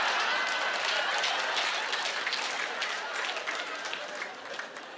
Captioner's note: laughter